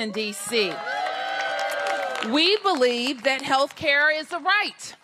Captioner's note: cheers and applause